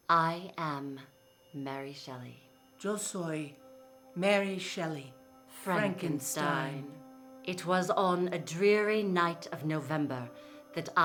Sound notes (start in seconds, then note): 3.1 speaking in foreign language